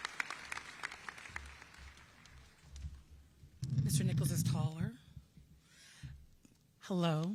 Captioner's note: applause